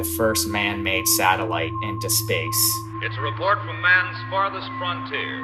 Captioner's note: soundbite of archived recording